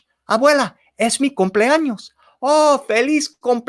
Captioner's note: spoken in foreign language